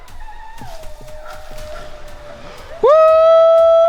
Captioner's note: distant howling